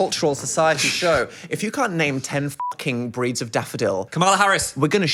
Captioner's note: beep